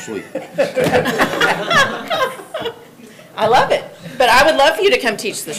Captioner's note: everyone laughing